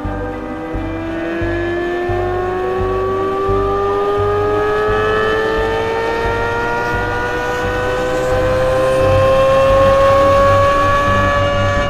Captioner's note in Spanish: engine sounds